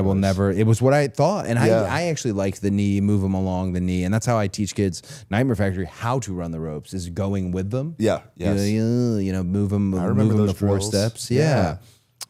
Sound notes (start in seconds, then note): none